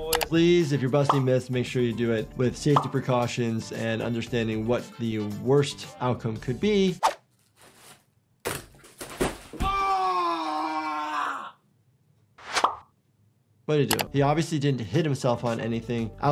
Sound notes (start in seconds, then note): 8.5 body thudding on floor